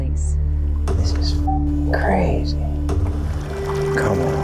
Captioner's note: beep